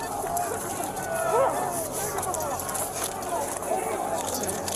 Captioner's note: crowd yelling